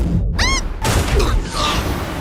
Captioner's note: screams